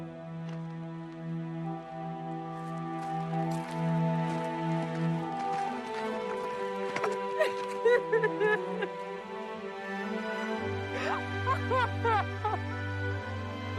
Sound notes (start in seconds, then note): 7.0 sobs